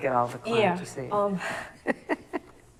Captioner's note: chuckles